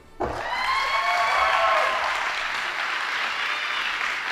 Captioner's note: audience applauding